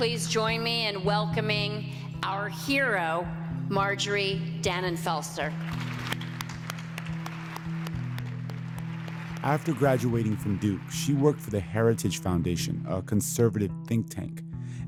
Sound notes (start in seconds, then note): 5.5 applause